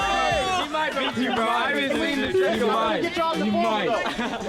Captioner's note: group conversing